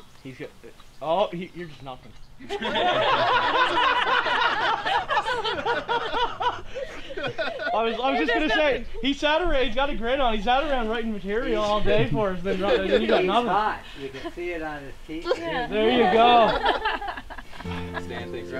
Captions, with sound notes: -Thank you. -Oh, you're just nothing. (all laughing) I was just gonna say, he sat around, he's got a grin on, he sat around writing material all day, - and then you got nothing! - He's hot, you can see it on his t-shirt There you go.